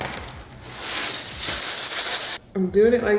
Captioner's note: cereal pours